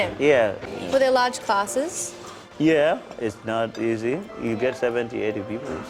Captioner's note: voiceover